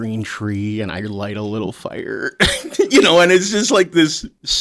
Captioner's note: laughs